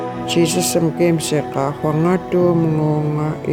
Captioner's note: speaking in st. lawrence island yupik